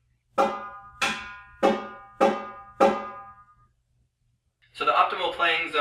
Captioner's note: high pingy sound